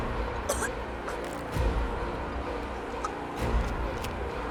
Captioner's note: Alana coughing